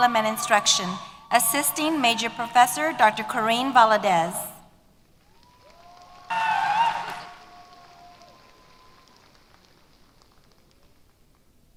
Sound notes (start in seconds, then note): 5.1 applause